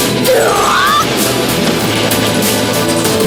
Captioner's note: roar